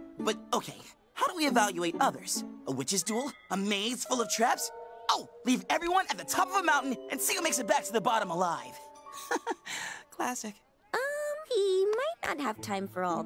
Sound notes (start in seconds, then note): 9.1 laughs